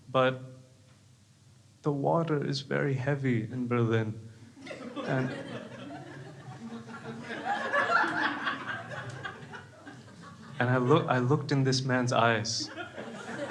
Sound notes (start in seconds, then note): 4.6 crowd laughs